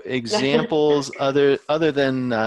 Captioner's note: laughs